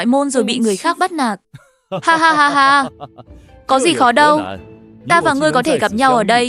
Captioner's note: laughs